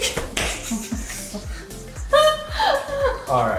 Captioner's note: laughing